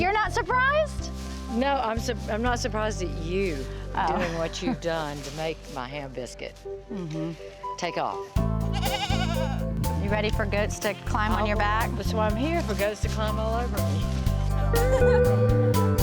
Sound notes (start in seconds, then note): 8.6 goat bleating; 15.8 relaxing music continues